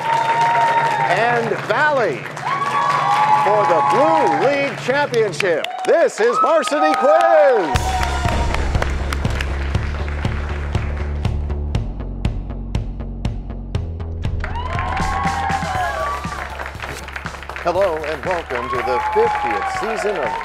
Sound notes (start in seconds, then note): 0.1 cheers and applause; 2.9 cheers and applause; 8.8 crashing sound